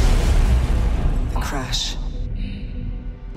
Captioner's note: crash